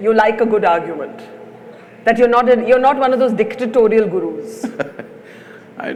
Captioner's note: Sadhguru laughs